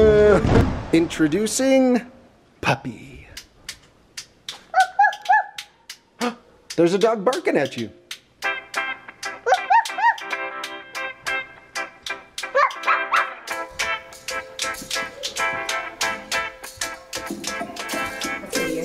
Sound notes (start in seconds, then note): 4.6 makes barking noises; 9.8 more barking noises